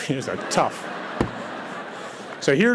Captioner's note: audience laughs